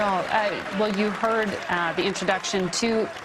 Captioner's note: cheers and applause